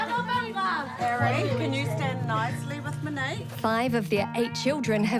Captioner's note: people chatter